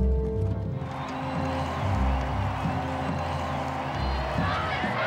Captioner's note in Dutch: menigte juicht